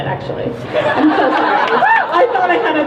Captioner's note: crowd laughs and cheers